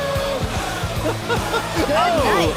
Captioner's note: laughter